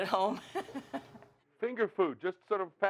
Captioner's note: laughing